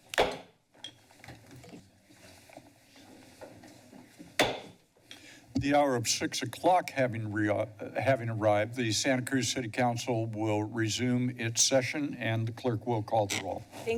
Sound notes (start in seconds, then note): 0.1 gavel tap; 4.4 gavel bangs